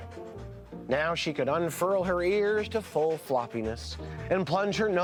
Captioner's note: laughs; gasps